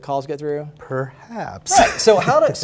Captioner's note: laughs